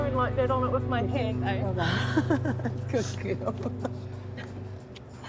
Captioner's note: chuckles